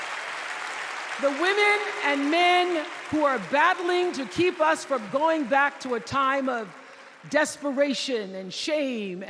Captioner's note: applause